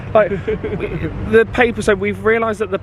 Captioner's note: laughing